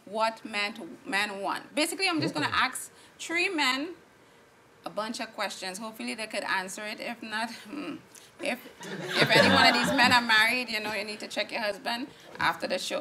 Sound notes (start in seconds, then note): 7.5 hmm; 8.8 audience laughing